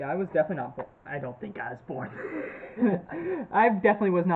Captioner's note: laughs